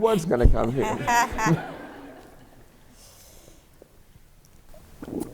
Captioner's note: laughter